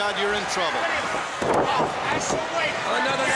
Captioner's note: crowd chatter